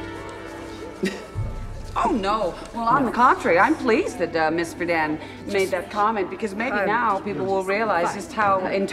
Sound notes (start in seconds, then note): 0.8 chuckles